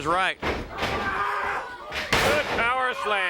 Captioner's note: footsteps plodding; Lex grunting; footsteps plodding; body thudding